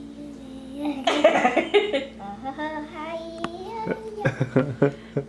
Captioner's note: laughing; chuckling